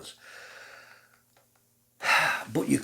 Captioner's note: sigh